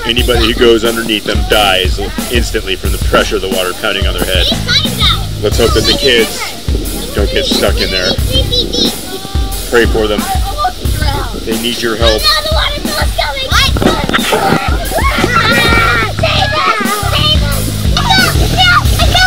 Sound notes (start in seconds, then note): 12.4 laughter and screaming